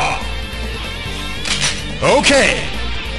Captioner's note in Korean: 철컥